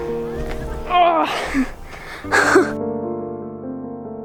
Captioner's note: grunts; relaxing music